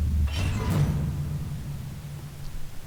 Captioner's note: metal creak